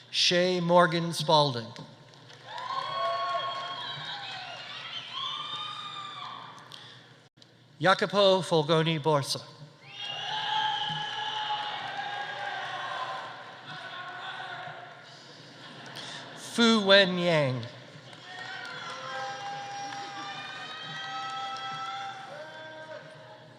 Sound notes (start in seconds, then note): 2.2 audience applauding; 2.4 audience cheering; 9.8 audience cheering; 10.0 audience applauding; 15.2 audience laughing; 17.8 audience applauding; 18.0 audience cheering